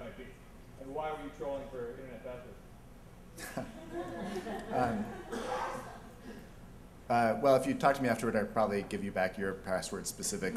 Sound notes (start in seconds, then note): 3.4 laughter